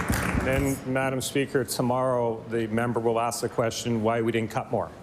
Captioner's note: applause